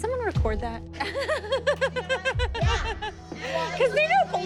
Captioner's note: laughing